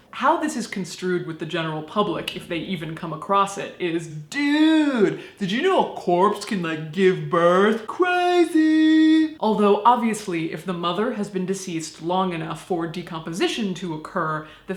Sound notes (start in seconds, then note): 4.0 surfer voice